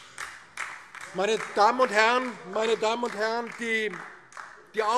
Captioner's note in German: Beifall DIE LINKE